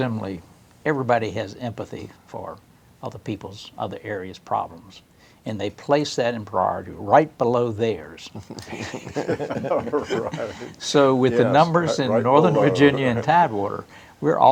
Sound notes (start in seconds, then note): 8.3 laughter